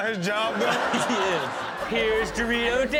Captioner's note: audience laughing